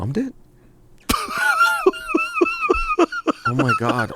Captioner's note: laughs